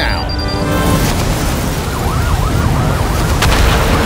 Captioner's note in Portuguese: explosão; sirenes